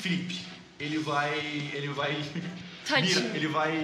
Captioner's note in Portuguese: risos